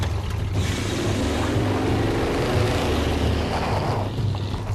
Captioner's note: engine revving